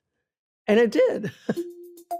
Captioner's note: chuckles; theme music playing